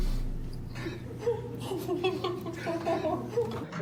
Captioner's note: laughs